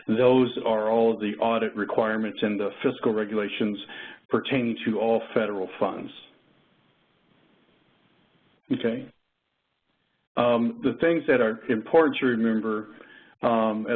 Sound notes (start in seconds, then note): 6.4 2 seconds pause